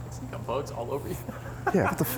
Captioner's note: laughs